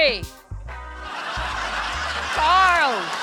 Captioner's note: laughter